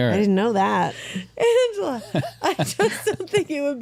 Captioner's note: laughter